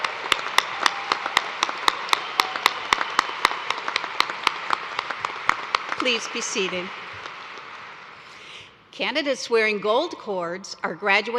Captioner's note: cheers and applause